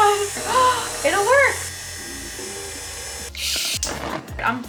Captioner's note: gasps